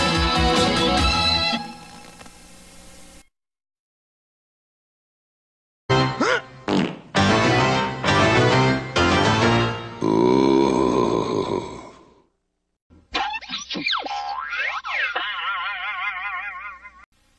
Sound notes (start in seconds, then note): 7.1 piano music playing; 10.0 ugly monster sounds; 13.1 cartoon sounds